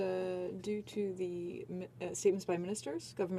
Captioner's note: speaking French